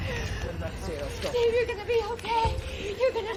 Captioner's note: sobbing